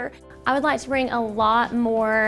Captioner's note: voice-over